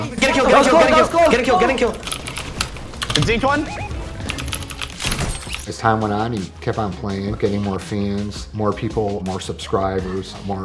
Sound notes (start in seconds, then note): 2.0 keyboard clicking